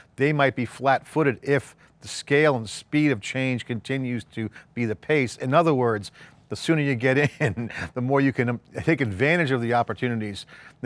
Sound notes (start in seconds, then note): 7.2 laughs